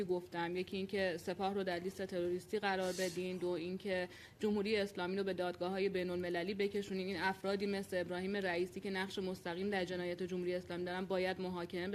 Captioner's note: speaking Alternate Language